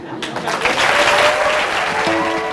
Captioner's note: applause